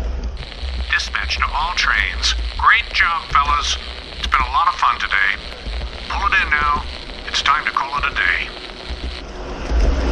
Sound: message on the radio

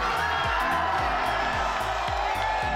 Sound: crowd

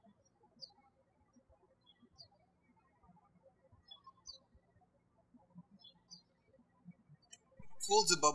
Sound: birds chirping

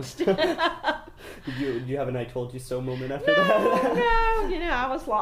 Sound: still laughing; laughs again

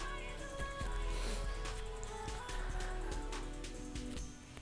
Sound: light sobbing

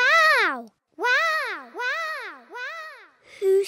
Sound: peppa's voice echoes around mountains

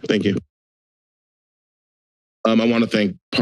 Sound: silence

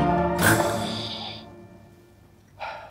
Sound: breathes with inhaler

